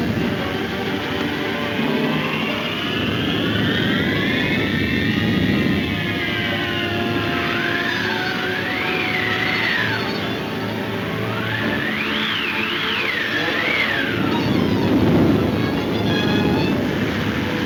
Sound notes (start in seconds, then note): 2.2 wind whooshing; 10.7 suspenseful music; 13.9 wind roaring